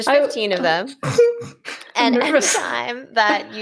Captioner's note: chuckles